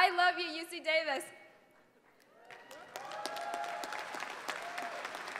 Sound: applause

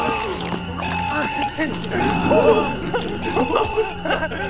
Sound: Spidey laughing

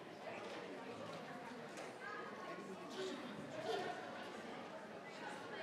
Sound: crowd chattering continues

